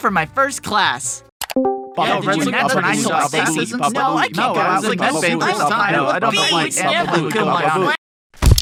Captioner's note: crowded blabbering